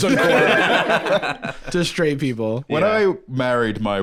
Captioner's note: others laugh